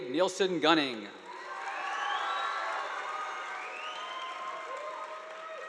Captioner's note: audience applauding